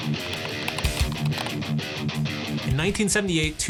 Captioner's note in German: intensive Musik; Tastenklappern